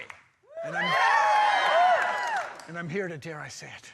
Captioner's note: crowd whooping